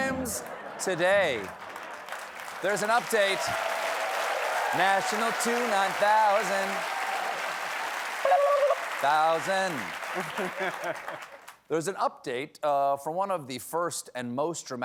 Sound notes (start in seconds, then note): 7.6 applause